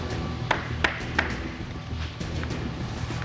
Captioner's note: tapping